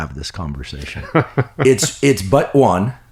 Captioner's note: laughs